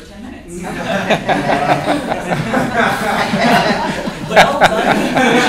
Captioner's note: laughter